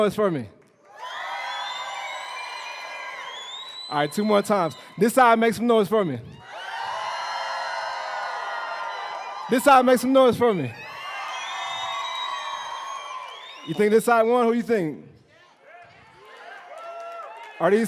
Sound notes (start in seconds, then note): 3.8 cheering; 8.5 cheering